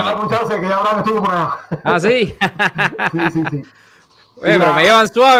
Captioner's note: laughs